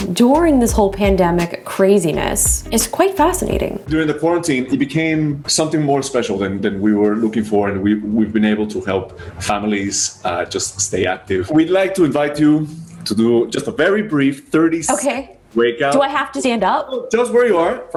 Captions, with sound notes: during this whole pandemic craziness is quite fascinating. - During the quarantine, it became something more special than we were looking for, and we've been able to help families just stay active. We'd like to invite you to do just a very brief, 30 (audio glitches) Wakeout. - Okay, do I have to stand up? - Just where you are